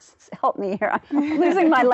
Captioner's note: laughter